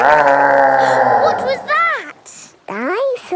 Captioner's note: gasps; growling; laughing